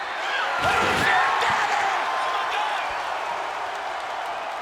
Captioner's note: audience cheers